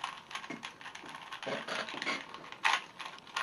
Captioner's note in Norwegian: wierd crack noise